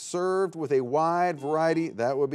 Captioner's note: buzzer beeps